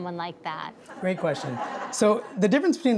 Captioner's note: audience laughs